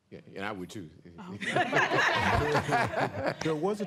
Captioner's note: laughter